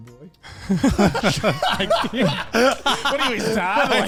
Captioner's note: all laughing